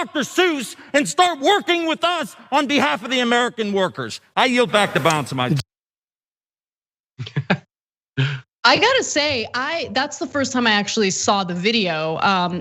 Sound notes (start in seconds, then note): 7.2 laugh